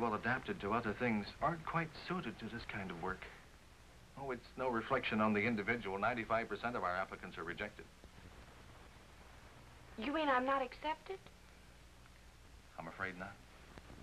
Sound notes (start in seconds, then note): none